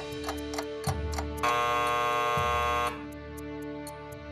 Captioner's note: ticking; alarm sounds